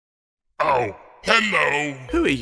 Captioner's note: low-pitched voice